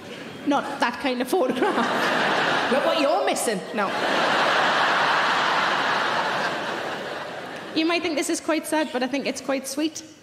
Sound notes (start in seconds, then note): 3.8 audience laughing